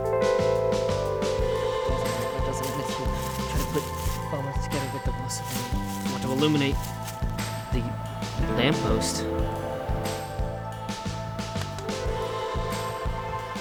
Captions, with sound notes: [ CURIOUS PIANO PLAYS ] [ MUTTERS TO SELF ] ...To illuminate the... lamppost? [ CURIOUS PIANO PLAYS ] [ CURIOUS PIANO PLAYS ]